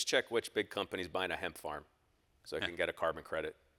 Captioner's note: none